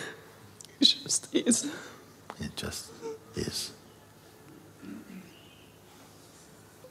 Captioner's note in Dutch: huilt